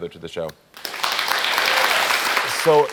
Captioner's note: audience applauding